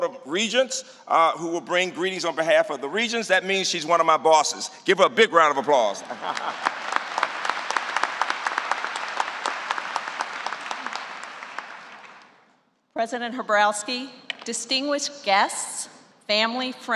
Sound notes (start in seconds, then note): 5.9 applause